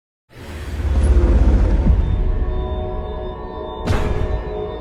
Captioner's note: deep bass echo